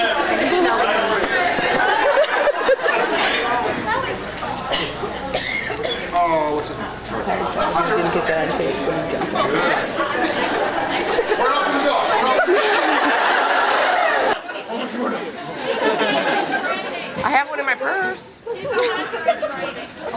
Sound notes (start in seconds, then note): 0.2 various chatter, laughs, and reactions; 12.3 laughs; 14.7 breathless; 15.7 various chatter, laughs, and reactions